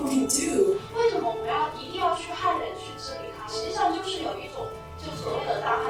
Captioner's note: speaking foreign language